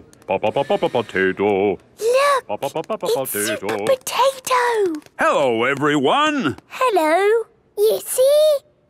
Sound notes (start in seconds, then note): 0.0 sing-song voice; 2.1 hushed